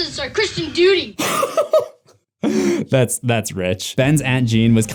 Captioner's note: laughter